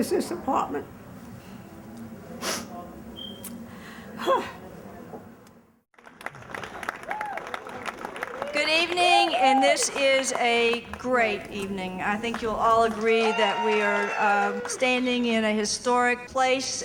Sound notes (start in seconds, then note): 4.1 sighs; 5.9 applause